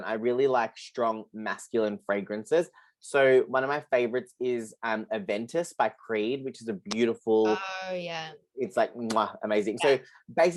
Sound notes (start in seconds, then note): 6.9 chef’s kisses